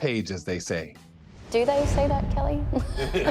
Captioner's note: transition whooshing; audience laughing; hosts laughing